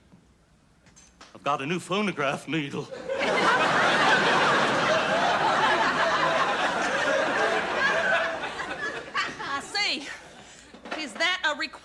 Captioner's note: laughter